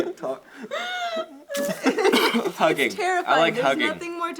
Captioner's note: coughs